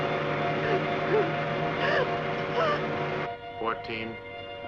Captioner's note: sobbing